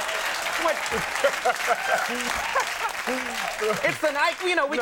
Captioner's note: audience cheering and clapping; Will laughing